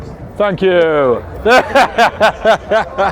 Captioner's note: laughing